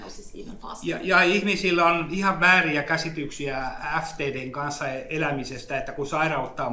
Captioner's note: speaks in Finnish language